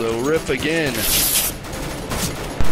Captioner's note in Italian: effetto sono di uno strappo di nastro adesivo